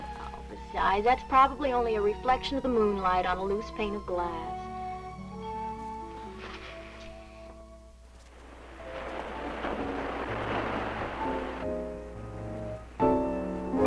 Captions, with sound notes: Besides, that's probably only a reflection of the moonlight on a loose pane of glass. (waves crashing) (gentle piano music playing)